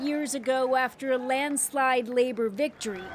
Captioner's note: crowd noise